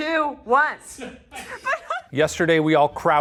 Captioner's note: team laughing